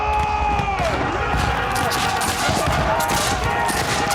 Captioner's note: men yelling; battle horn playing